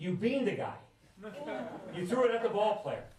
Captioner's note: laughter